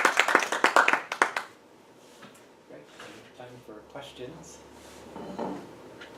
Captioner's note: applause